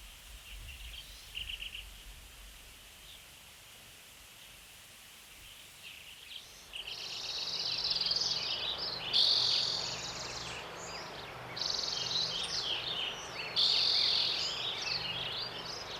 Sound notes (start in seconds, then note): 0.4 birds chirping; 6.8 bird chirping intensifies